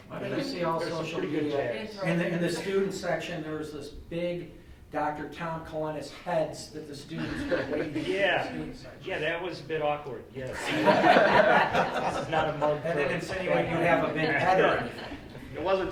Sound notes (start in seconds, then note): 10.5 all laughing